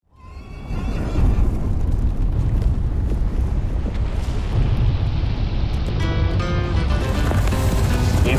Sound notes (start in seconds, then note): 0.2 horse neighing; 0.3 hooves rumbling; 6.0 gentle music